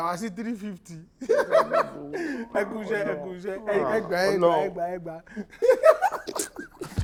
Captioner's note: laughs